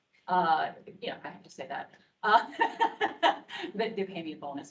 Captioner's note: laughs